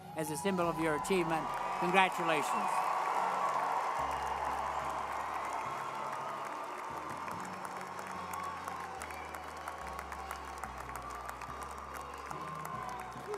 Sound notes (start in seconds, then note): 4.2 crowd cheering; 4.2 uplifting music